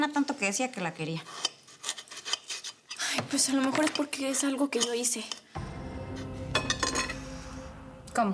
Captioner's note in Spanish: ruido al picar algo